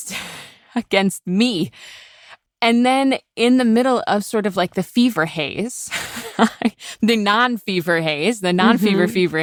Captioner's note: laughs